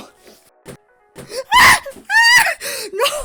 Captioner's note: Hana sighs; Hana screams